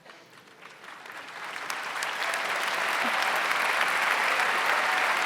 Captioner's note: audience applauds